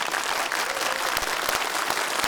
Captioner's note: audience applauding